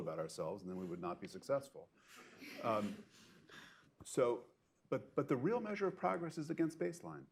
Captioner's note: laughter